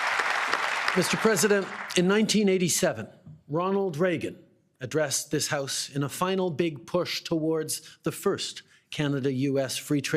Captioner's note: applause